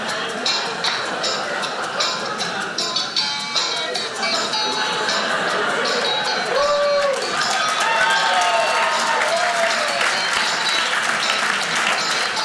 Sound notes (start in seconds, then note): 0.0 audience laughing; 3.6 audience laughing; 6.6 audience clapping